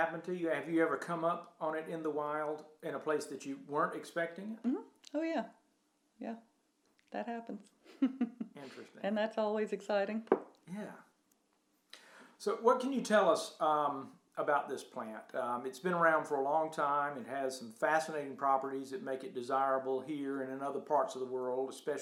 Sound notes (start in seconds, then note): 7.9 giggles